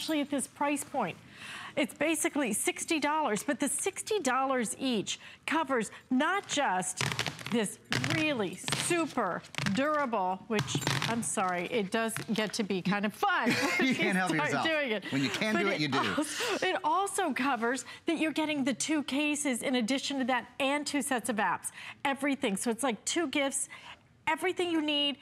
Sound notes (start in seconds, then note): 13.4 laughter